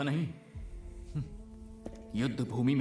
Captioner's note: scoffs